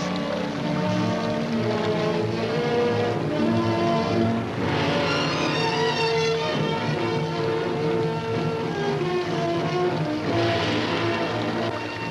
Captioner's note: sewage flowing; suspenseful music